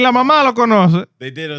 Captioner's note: speaking In Foreign Language